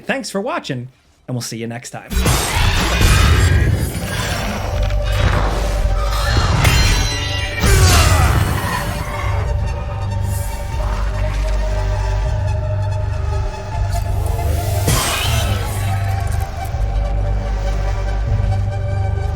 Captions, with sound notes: Thanks for watching and we'll see you next time. (blade crashing) (brooding music) (monsters shrieking) (Remi grunting)